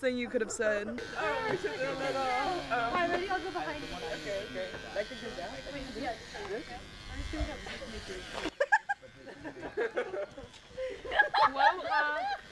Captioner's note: hair clipper buzzing, loud talking and laughter